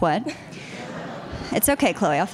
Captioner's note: audience laughter